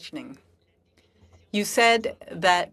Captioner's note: speaking French